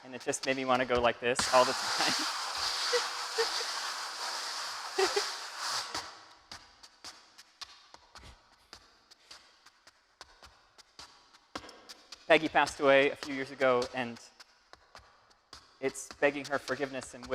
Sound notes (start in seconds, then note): 2.9 laughing; 6.9 shoes clacking